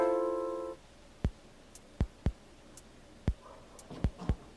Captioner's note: sniffing